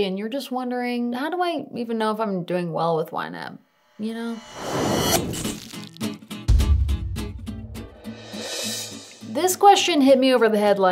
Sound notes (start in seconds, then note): 4.0 title card whooshing; 4.6 logo splattering; 6.3 upbeat music; 6.4 speech bubble thudding; 8.1 cymbal crash reversing